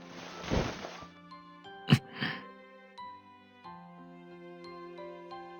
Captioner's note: kiss